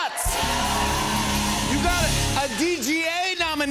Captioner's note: cheers and applause